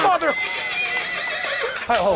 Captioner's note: horse neighing